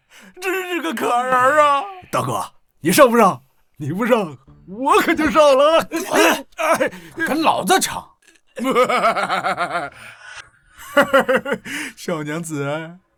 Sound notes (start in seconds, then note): 8.6 sinister chuckle